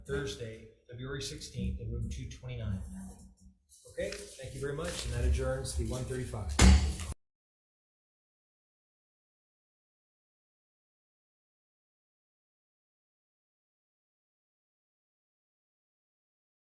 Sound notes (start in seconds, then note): 6.5 gavel bangs